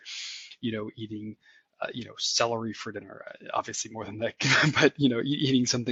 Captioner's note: laugh